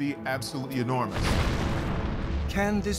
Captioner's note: loud explosion